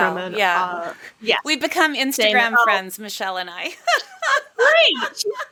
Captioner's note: laughs